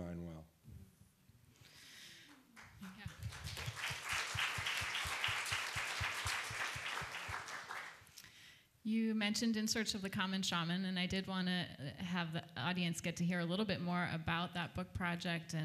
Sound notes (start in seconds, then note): 2.2 applause